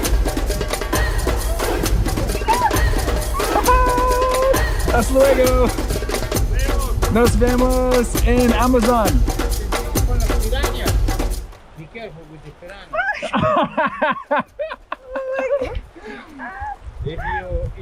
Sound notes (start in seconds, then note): 4.8 speaking in foreign language; 12.9 laughs